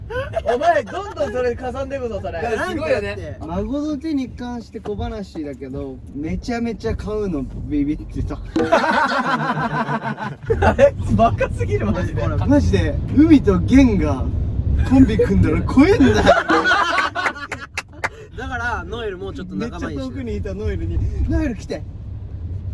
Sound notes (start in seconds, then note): 8.5 laughs; 14.8 laughs